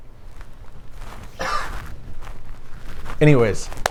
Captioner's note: worker coughs